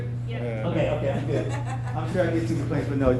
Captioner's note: person laughs